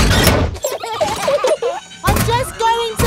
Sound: children giggling

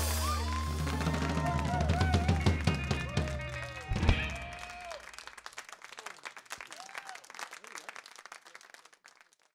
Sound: crowd cheering as the music ends

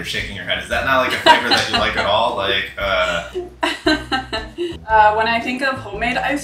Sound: laughs

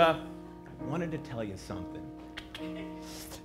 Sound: clicks tongue twice

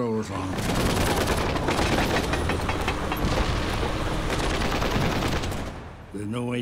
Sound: rapid gunfire exploding; metal clanging

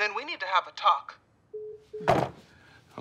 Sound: call ends

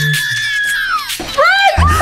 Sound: Velma screams

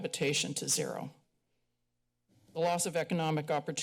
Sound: pause

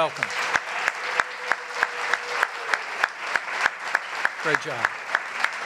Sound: applause

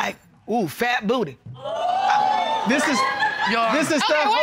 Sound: audience gasping

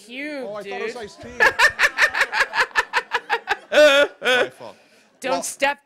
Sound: laughter

